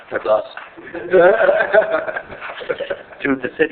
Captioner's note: laughing